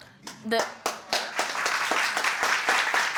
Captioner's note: audience clapping